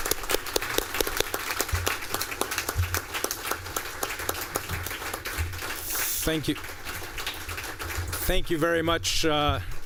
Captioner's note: applause